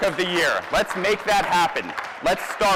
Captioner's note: applause